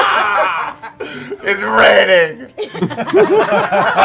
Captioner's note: crying; laughter